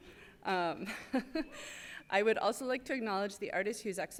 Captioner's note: laughs